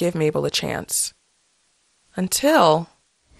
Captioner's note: soundbite of archived recording